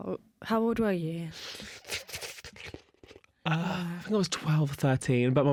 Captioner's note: thoughtful sucking noises